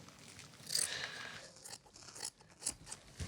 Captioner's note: scissors cutting